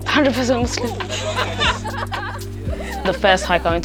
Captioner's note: laughing